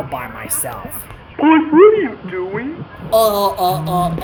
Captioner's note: intercom